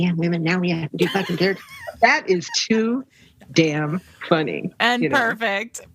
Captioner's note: laughter